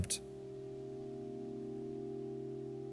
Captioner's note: pensive sounds